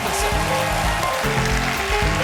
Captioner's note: applause